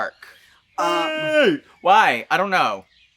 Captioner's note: Trinity The Tuck vocalises